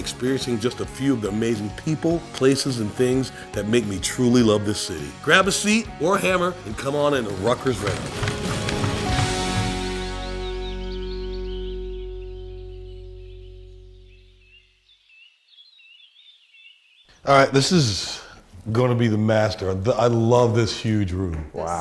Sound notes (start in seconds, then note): 8.2 hammers banging rhythmically; 10.4 birds chirping happily